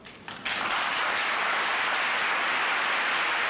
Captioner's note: applause